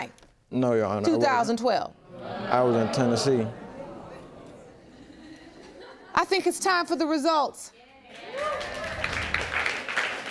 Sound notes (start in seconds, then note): 8.1 clapping